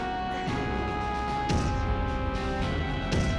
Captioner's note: thunderous footsteps